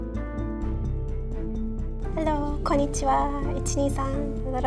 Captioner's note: speaks Japanese